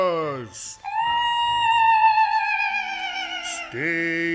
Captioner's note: horrible nightmare giggling